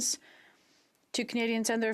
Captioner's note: speaking French